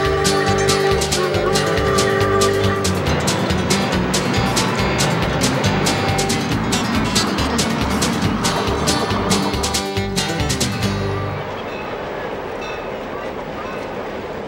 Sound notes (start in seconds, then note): 0.1 train chugging; 3.2 whistle blowing